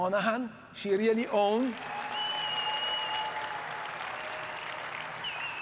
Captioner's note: audience cheering and clapping